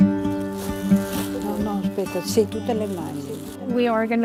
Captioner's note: gentle music; speaking in foreign language